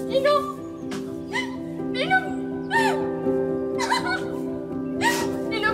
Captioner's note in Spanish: Sollozos